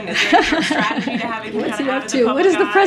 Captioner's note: laughs